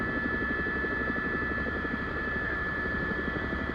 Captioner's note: helicopter